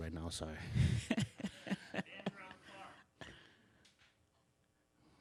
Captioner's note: laughs